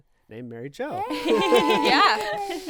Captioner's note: group cheering